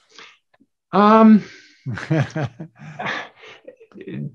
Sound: laughing

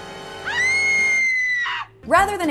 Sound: high-pitched scream

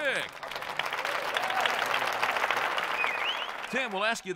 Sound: applauding

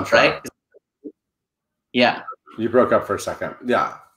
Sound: speaker muffled by static

